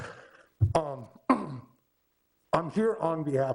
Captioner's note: clears throat